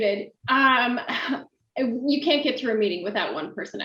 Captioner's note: chuckles